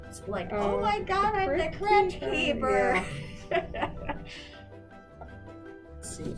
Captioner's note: laughs